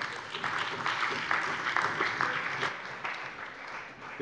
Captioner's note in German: Beifall bei der CDU und dem BÜNDNIS 90/DIE GRÜNEN